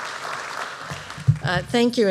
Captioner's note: applause